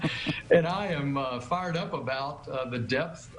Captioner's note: chuckling